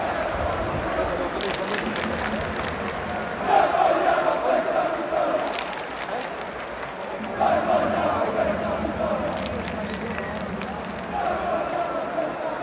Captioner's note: cheering